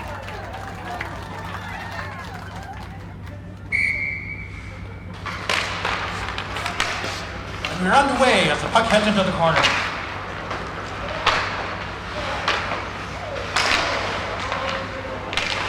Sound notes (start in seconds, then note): 0.0 audience cheering; 3.6 whistle blows; 6.6 hockey sticks clattering; 9.6 hockey sticks clattering